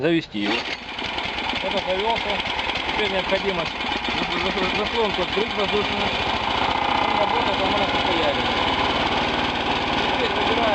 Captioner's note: engine noise is heard